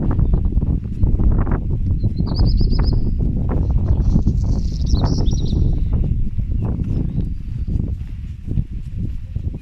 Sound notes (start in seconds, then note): 3.5 birdsong